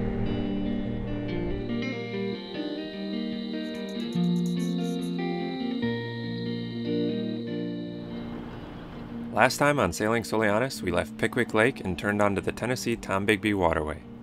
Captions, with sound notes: (cicadas & crickets chirp) Last time, on Sailing Soulianis, we left Pickwick Lake and turned onto the Tennessee-Tombigbee Waterway.